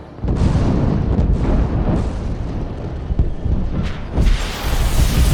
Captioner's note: explosions echo